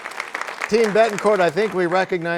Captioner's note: applause